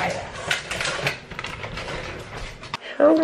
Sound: plastic crinkling

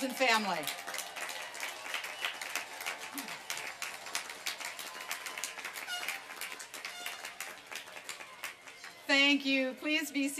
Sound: applause and cheering

